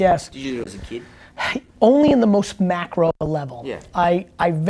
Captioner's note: sighing